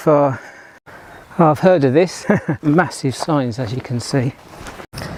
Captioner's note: laugh